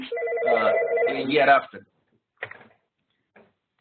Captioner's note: phone ringing